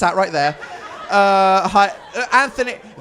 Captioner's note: audience laughs